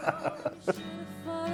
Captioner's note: laughing